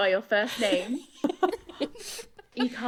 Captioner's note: laughing